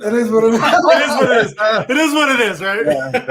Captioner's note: laughter